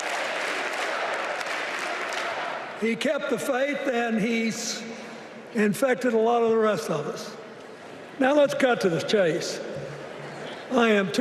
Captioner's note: applause; crowd chanting